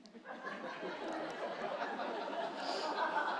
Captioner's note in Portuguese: risos da plateia